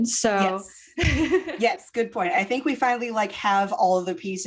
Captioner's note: laughter